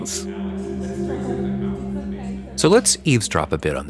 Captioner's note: people chattering